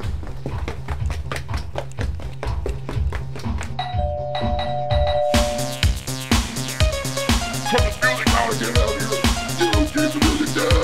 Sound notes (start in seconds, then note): 3.8 urgently rings doorbell; 10.3 yells